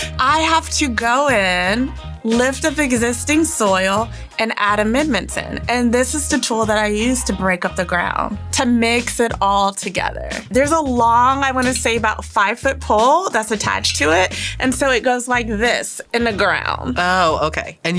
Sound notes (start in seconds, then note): none